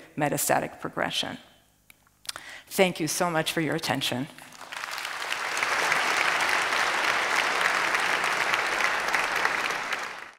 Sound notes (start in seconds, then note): 4.5 audience applauds